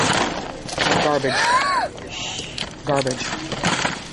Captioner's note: gasps